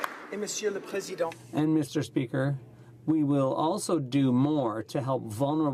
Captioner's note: applause